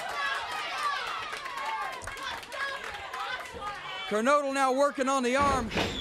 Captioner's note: crowd cheering